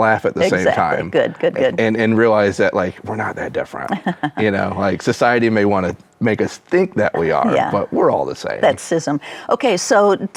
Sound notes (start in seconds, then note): 3.9 chuckles